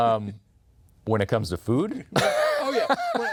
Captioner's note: laughs